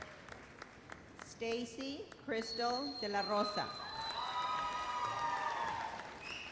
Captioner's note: audience cheers